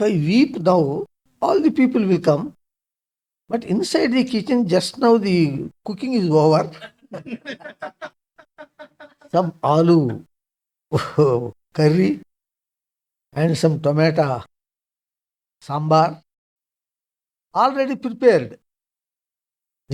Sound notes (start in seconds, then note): 6.5 laughs